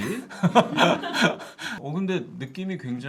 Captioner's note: laughing